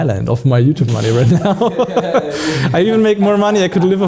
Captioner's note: laughs